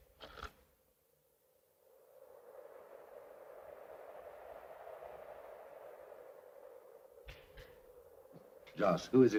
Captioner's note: door unlocks; wind blows